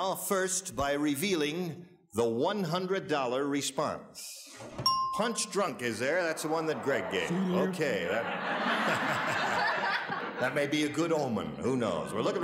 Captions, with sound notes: First by revealing the 100 dollar response. Punch drunk is there, that's the one that Greg gave. - See. - Okay that-- [audience laughs] that may be a good omen, who knows?